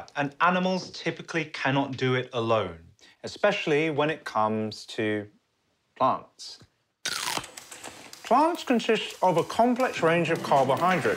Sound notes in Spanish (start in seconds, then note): 7.0 sonido de morder una zanahoria